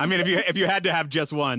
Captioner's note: everyone laughs